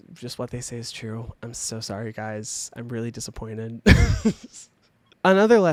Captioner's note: laughs